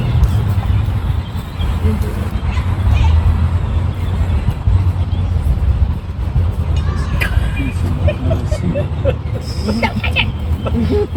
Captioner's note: laughter